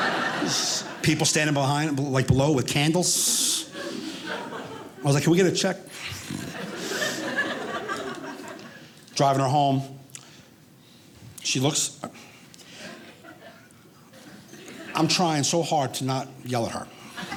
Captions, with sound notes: People standing behind like below with candles. I was like, can we get a check? (audience laughing) Driving her home, she looks, I'm trying so hard to not yell at her.